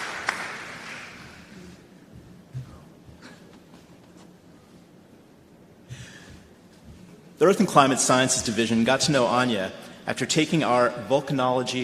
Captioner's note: applause